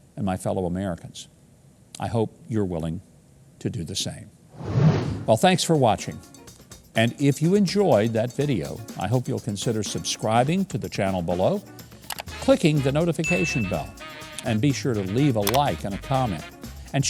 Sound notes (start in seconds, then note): 12.0 computer clicking; 13.2 dinging sound